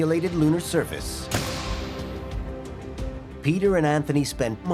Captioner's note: loud snap